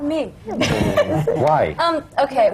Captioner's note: laughter